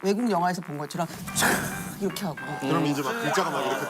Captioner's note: swoosh